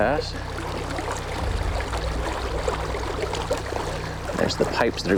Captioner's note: water splashing